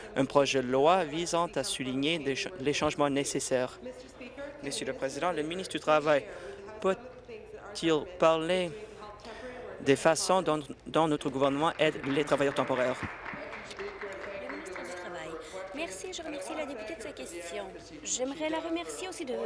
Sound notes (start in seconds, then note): 14.0 applause